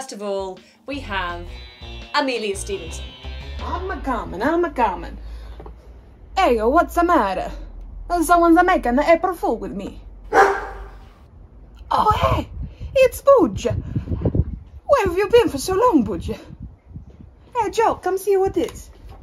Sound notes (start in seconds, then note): 3.7 Italian accent; 10.3 dog barks